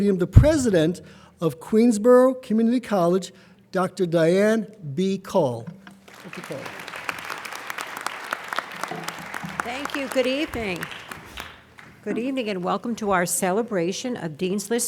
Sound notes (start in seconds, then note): 6.0 applauding